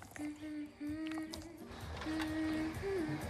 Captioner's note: humming